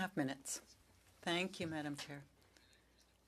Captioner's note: speaking French